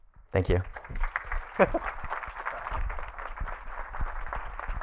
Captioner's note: audience clapping